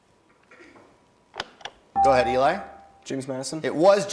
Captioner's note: bell rings